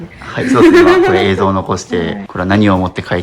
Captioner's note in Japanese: 笑い